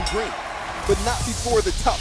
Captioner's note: bell ringing